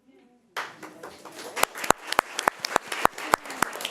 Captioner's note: crowd applauding